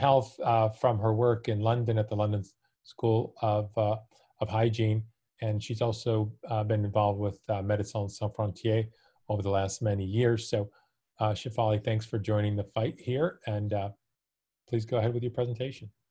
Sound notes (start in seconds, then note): 7.4 speaking in foreign language